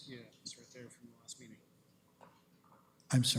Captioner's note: comments off mic